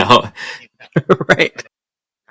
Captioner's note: laughter